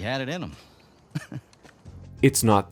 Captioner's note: chuckles